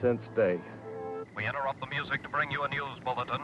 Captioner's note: radio Announcer